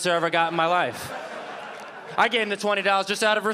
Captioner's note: audience laughing